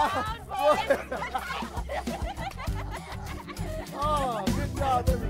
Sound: laughs

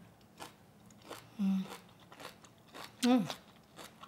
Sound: crunching

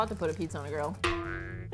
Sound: boing

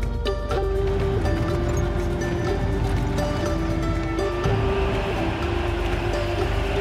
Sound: engine rumbling; gentle music

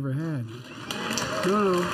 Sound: applause

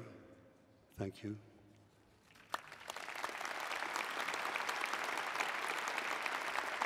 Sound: applause

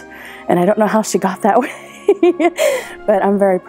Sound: laughing

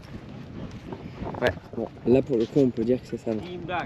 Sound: speaking in foreign language

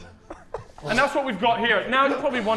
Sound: Sidemen laughing

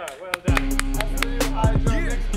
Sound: audience applauds; man clapping; upbeat music

